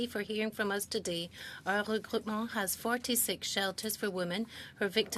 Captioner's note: speaking French